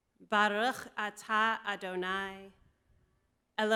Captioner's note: hebrew